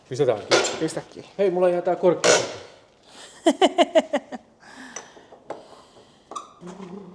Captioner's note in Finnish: naurua